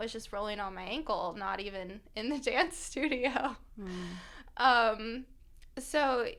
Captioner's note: laughter